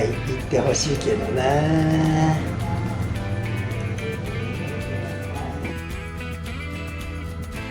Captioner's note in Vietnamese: cười